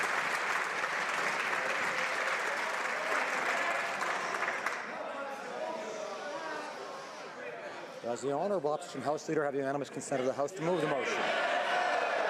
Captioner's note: applause